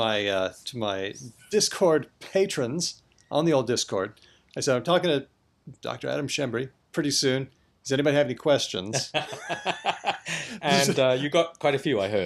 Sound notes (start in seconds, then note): 10.8 laughter